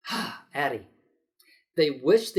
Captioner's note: exasperated sigh